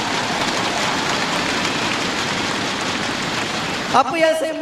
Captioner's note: crowd cheering